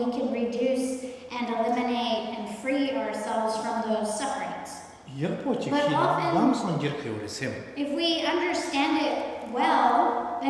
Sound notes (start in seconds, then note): 6.4 speaking tibetan